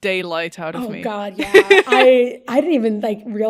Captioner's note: laughs